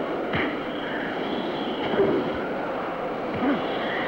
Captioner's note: fist thuds; fist thuds